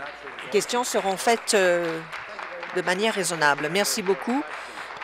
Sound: applause

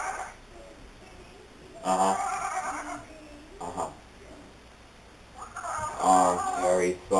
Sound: llama talking on phone

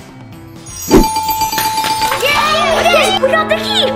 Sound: bell dinging

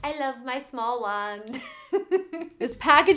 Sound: laughing

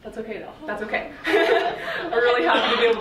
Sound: laughing

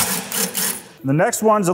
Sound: driver whirring

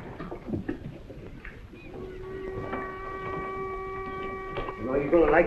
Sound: boat whistles - seagulls

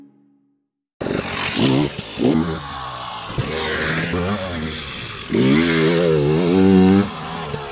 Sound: 2T bike sounds go wrrrr

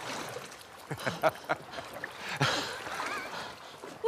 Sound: laughs

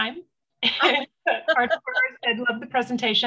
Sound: laughs

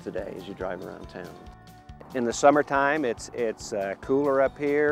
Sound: voiceover

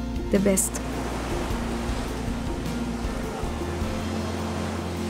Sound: waves crashes

